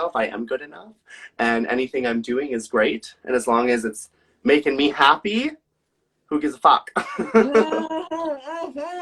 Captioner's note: laughs